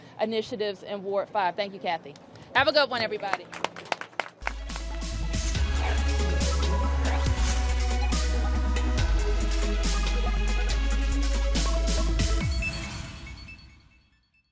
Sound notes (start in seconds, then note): 3.0 applause